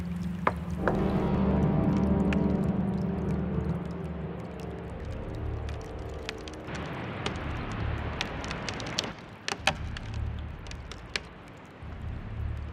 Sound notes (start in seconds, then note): 0.2 wood cracking; 7.3 underground water well sound